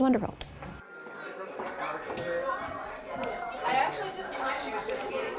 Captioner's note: crowd murmuring